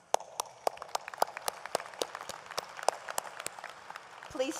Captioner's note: audience applauds